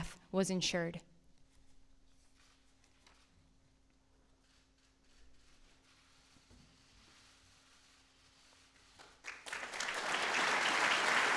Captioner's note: applause